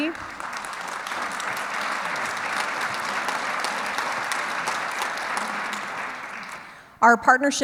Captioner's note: clapping